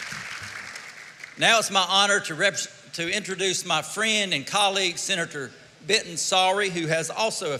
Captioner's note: applause